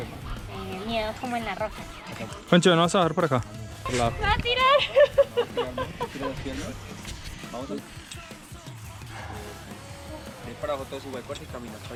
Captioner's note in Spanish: risas